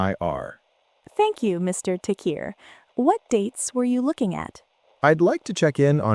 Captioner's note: receptionist voice